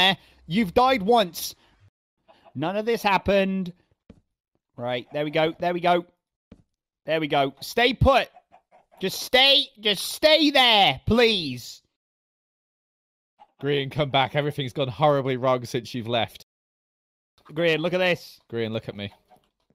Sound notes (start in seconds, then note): none